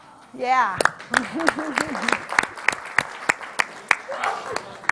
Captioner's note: clapping